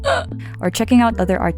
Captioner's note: throat itch